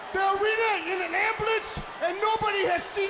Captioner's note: crowd cheering